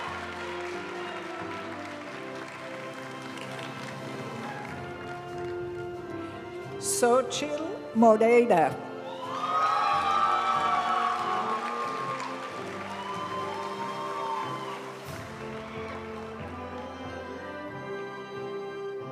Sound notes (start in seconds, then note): 0.2 graduation music; 9.0 audience cheering and applauding; 12.5 graduation music